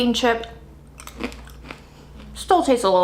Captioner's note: crackling sound